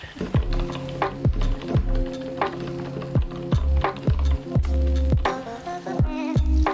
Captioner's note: gentle music; keyboard typing